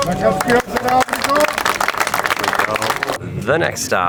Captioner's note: crowd applauding